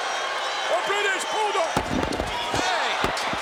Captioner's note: hand smacks